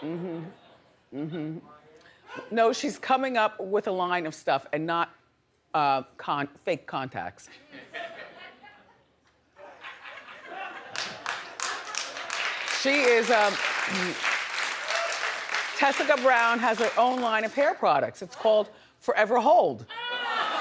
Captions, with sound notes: Mm-hmm, mm-hmm. No, she's coming up with a line of stuff and not fake contacts. (audience laughing) (audience clapping) Tessica Brown has her own line of hair products. It's called Forever Hold.